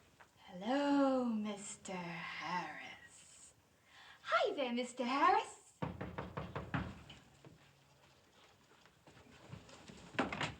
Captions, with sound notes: Hello, Mr. Harris. Hi there, Mr. Harris. [KNOCKING]